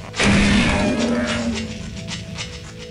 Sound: gunshot

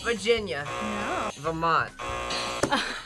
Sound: buzzer rings; buzzer; buzzer rings; laughs

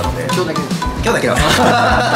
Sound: laughs

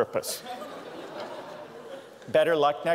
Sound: laughter

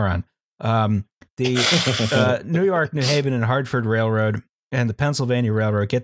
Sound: laughter

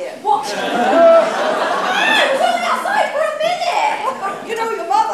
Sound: audience laughter

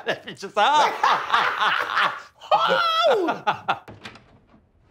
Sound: laughing

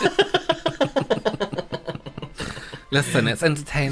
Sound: cackly Laughter

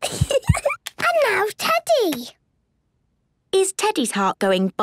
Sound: giggles

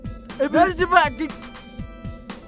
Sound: twilight babbles angrily

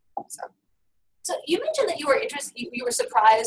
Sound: voiceover

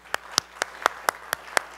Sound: applause

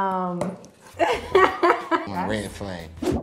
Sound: laughs

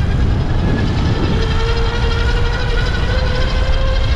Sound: motor running

